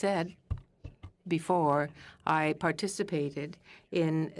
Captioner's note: speaking french